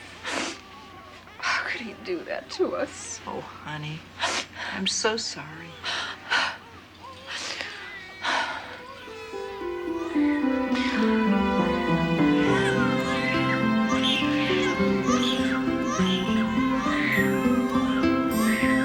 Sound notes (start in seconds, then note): 8.1 gasping; 11.0 melancholy music playing; 15.4 babies crying